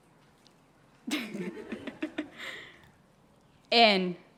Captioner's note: nervous laughter